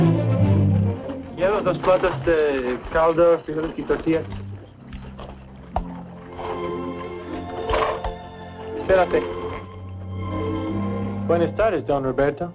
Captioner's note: speaking spanish